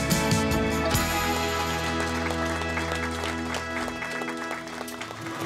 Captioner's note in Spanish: aplausos